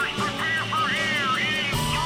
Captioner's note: engines whir shrilly